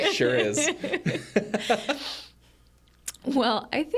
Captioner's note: group laughs